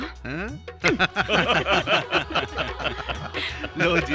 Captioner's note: laughing